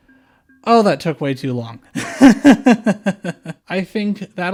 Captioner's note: laughter